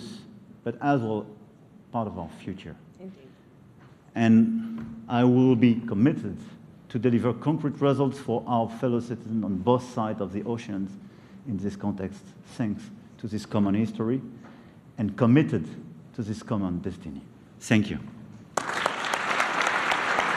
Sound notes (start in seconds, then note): 18.5 applause